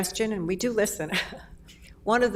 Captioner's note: laughs